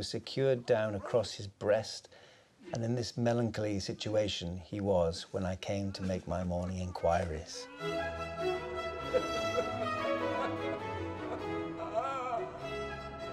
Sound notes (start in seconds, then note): 7.0 groaning and sobbing; 7.4 regal instrumental music